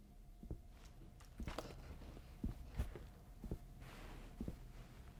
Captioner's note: footsteps approaching